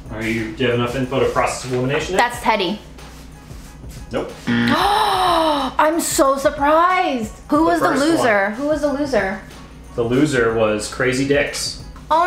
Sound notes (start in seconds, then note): 4.4 buzzer sounding